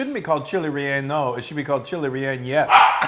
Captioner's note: laugh